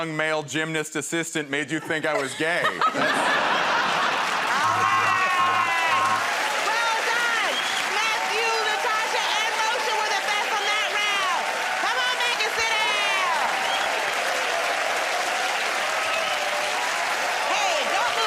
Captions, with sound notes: and young male gymnast assistant made you think I was gay? [ Laughter ] -All right. [ Cheers and applause ] Well done! Matthew, Natasha, and Moshe were the best from that round. Come on back and sit down. [ Cheers and applause ]